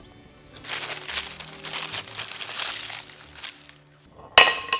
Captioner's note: paper crinkles